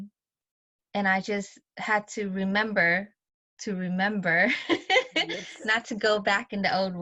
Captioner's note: laughs